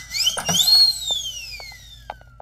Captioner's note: Door opens